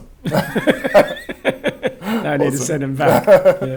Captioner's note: laughs